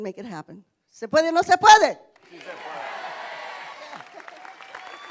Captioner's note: speaking spanish; cheering and applause